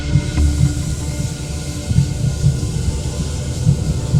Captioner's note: dramatic music continues; water running